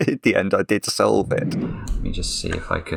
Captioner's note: air whooshing